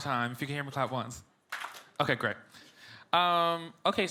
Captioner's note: audience claps